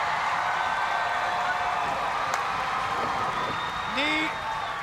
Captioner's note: crowd cheering